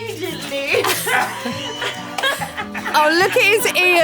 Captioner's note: all laughing